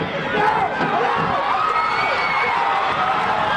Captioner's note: crowd